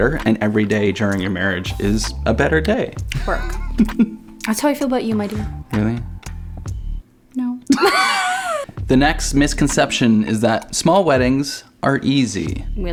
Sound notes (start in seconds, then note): 3.1 chuckling; 7.7 laughing